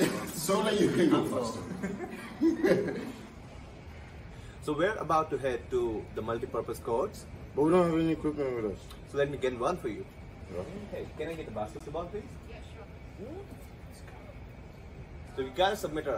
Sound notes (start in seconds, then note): 1.6 both laugh